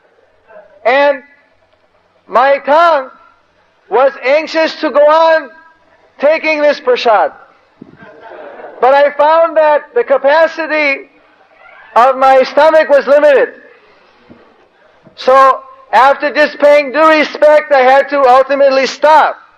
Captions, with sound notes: And my tongue was anxious to go on taking this Prasad. (devotees laugh) But I found that the capacity of my stomach was limited. So after just paying due respects, I had to ultimately stop,